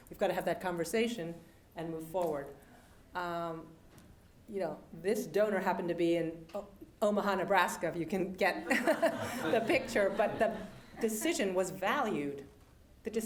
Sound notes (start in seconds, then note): 8.7 laugh